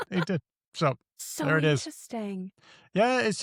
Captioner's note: laughs